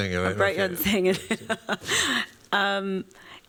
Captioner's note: laughs